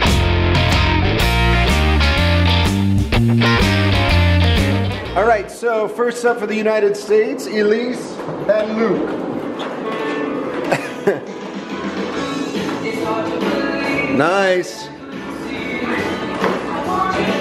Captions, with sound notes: All right, so first up for the United States, Elise and Luke. (chuckles) Nice!